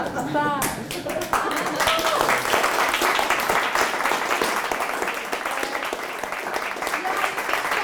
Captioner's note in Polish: oklaski